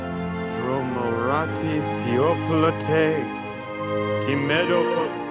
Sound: speaking foreign language

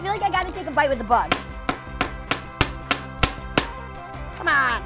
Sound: hitting

